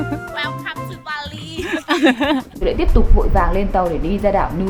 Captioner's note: laughter